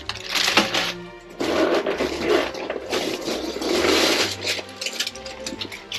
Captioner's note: box noises